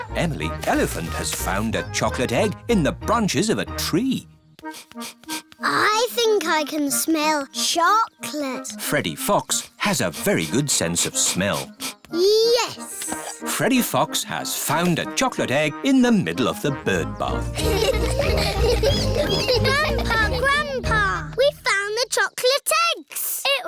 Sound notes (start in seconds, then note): 0.0 trumpets; 4.6 sniffs; 10.8 sniffs; 17.4 all laughing